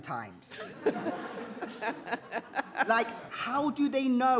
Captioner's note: others laughs